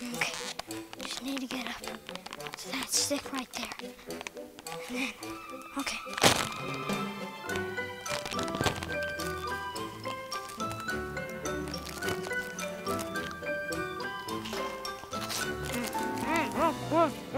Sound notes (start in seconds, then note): 7.4 Cheetos crunching; 7.4 bag rustling